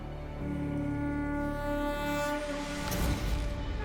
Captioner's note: conch blows